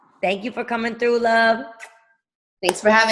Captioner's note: blowing kiss